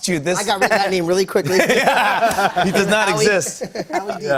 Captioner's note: laughter